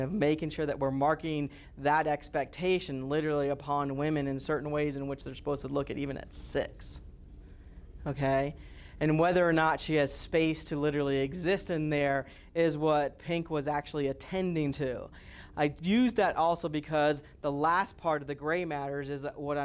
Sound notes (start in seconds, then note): none